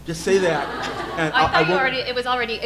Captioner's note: audience laughing